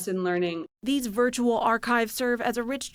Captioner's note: voice-over